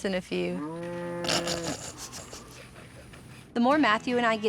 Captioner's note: laughing